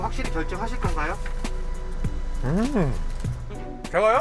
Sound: eating

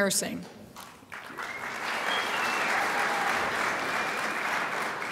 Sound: crowd applauds

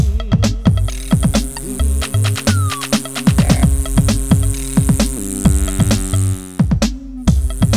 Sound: buzzing

